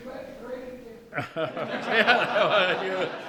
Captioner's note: man shouting; audience laughing